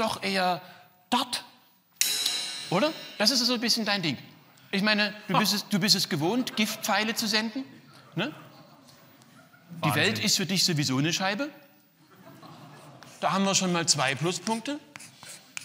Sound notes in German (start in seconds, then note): 7.8 lacht